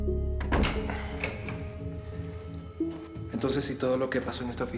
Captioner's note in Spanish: Ruido al cerrar